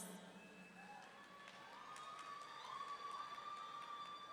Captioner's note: audience cheering